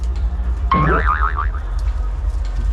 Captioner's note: doiing